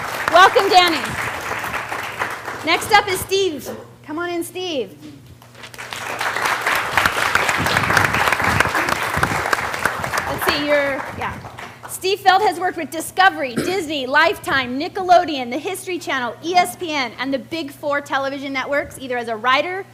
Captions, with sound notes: Welcome Danny. Next up is Steve. Come on in Steve. [ Applause ] Sit here, yeah. Steve Feld has worked with Discovery, Disney, Lifetime, Nickelodeon, The History Channel, ESPN and the big four television networks either as a writer,